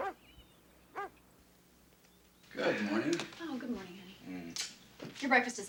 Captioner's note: dog barking